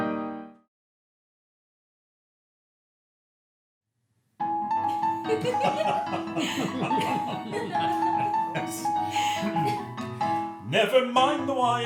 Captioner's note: piano outro; laughter, piano introduction